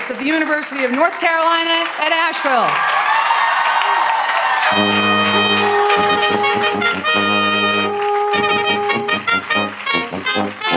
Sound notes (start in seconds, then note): 3.4 applause, cheering and clapping; 9.3 musical fanfare